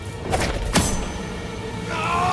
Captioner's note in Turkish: Hançer saplanma sesi